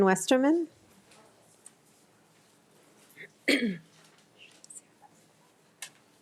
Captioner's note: staff member speaking faintly